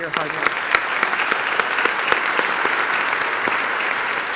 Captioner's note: applause